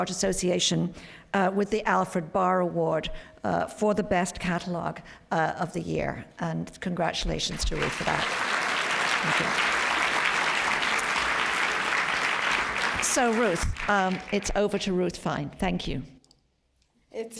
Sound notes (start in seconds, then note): 7.5 applause